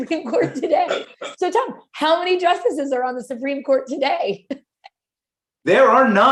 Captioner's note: laughter